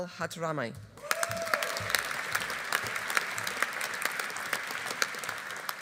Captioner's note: audience cheering; audience applauding